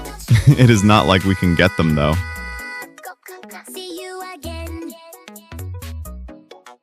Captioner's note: laughs